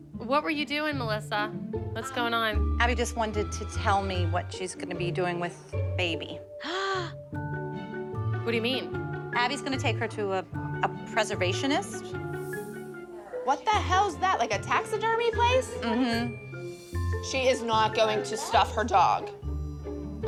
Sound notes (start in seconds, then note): 6.3 gasps